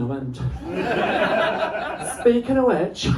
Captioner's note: laughter